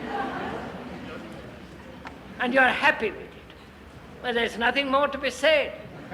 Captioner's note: laughter